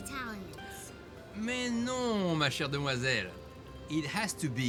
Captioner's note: speaks in foreign language